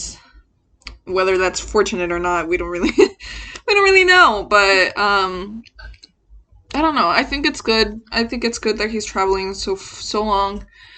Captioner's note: laughs